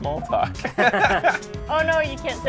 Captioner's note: laughs